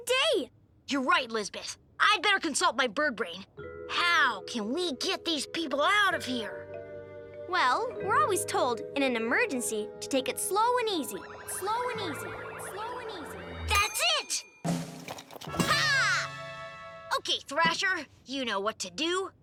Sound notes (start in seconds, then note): 10.9 Lizbeth echoing